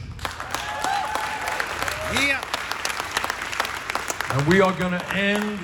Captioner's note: audience applauding and cheering